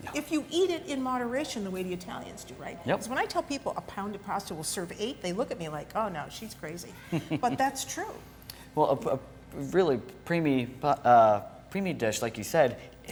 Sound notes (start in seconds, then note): 7.0 chuckles